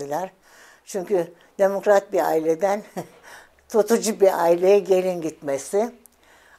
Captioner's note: laughs